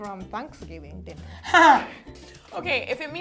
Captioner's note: laughs